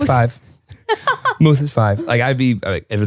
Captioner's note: laughing